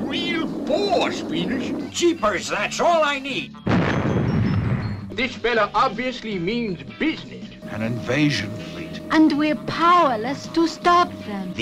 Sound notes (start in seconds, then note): 3.6 bomb exploding